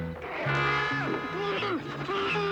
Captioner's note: muffled screams